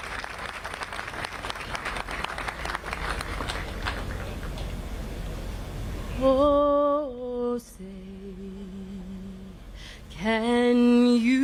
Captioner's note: applause